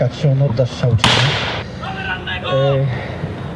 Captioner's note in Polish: Strzał